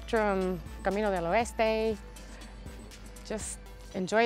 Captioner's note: speaking in foreign language